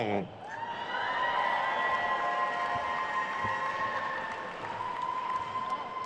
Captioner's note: attendees cheering and applauding